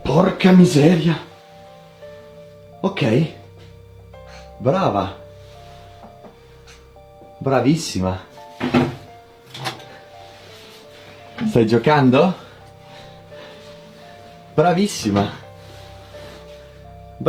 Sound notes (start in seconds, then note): 0.4 foreign Language